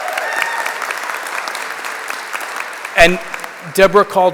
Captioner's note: applause